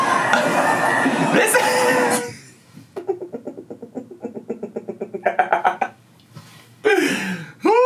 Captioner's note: laughs